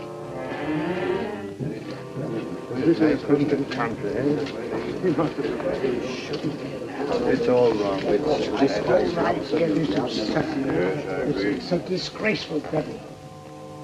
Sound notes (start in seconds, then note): 2.5 scandalized mutterings